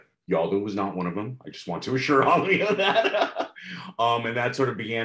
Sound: laughs

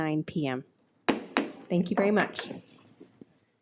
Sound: gavel bangs

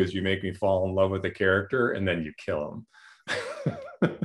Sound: laughter

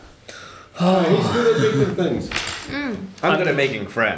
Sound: huffs

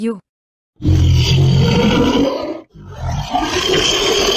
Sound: monster Roaring

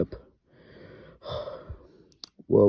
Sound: sigh

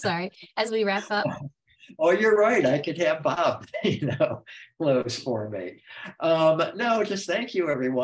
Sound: laughs

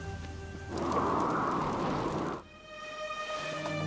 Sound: wind whistling; gentle music

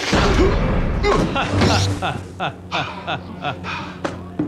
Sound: laughs

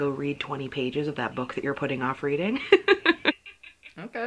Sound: laughs

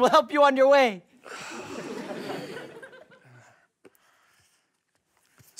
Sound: sighs

